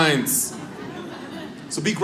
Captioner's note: audience laughs